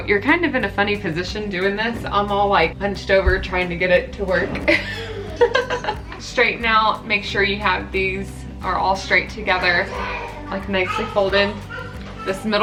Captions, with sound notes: So you're kind of in a funny position doing this. I'm all hunched over trying to get it to work (laughs). Straighten out, make sure you have these, are all straight together nicely folded.